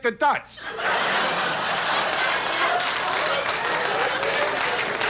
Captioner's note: audience laughs